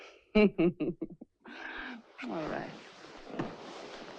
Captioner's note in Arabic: تضحك